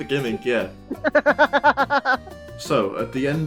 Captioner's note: laughter